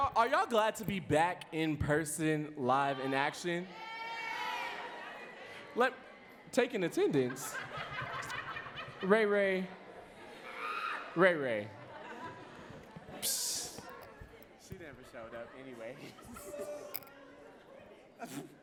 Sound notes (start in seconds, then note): 4.8 audience cheering and clapping